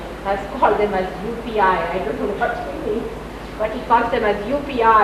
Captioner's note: laughs